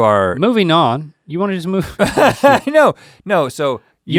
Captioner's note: Rhett chuckles